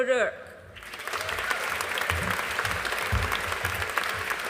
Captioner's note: audience applauding